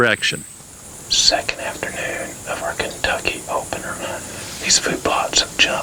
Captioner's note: whispering